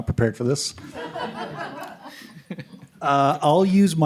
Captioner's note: laughter